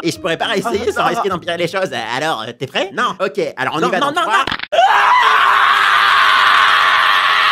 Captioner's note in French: crack